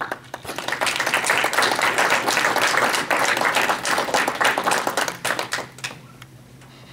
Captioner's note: applause